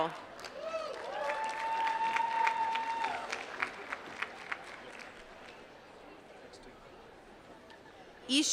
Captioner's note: applause